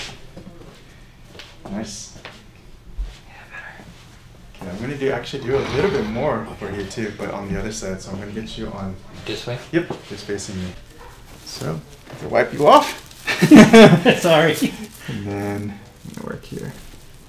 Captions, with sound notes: Nice. OK, I'm going to do actually do a little bit more here, too, but on the other side, I'm going to get you on this bench, just facing me. So just wipe you off (patient laughing).